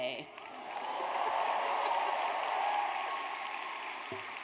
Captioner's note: audience cheers